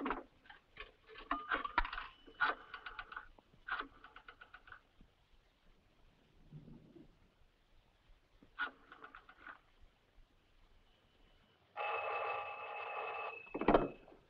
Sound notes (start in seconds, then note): 0.9 payphone dings; 1.0 rotary phone dialing; 11.7 telephone rings